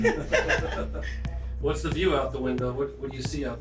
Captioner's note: laughing